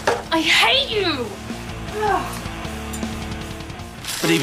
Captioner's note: sighs